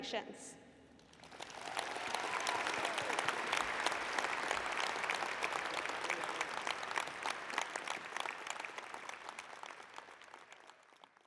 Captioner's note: applause